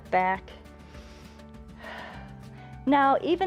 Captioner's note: inhales and exhales